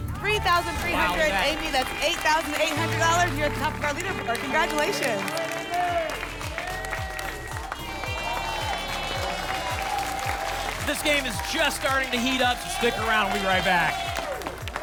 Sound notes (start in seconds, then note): 6.3 applause and cheering; 14.6 applause and cheering cont